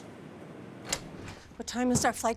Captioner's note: door rattling